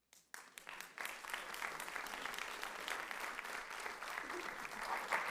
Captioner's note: audience applauds